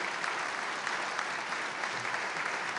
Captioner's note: applause